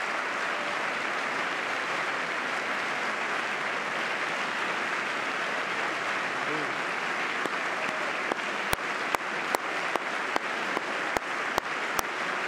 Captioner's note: applause